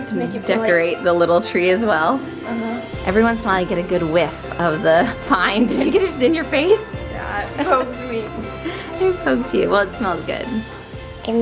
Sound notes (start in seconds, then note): 7.2 laughing